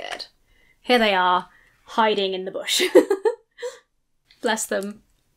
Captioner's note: laughs